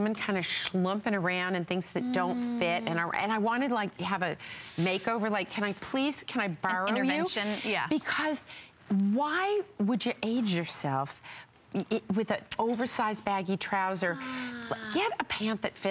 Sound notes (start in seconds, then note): 1.1 foreign language